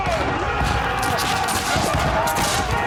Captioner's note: battle horn playing; men yelling